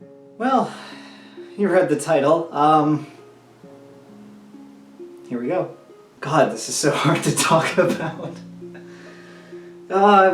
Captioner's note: laughs